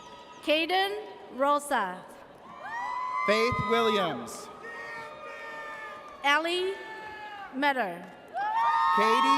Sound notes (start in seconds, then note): 5.0 audience cheers; 8.2 audience cheers